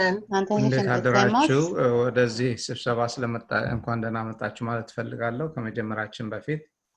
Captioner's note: speaking in foreign language